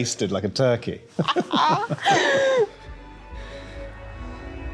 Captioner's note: both laughing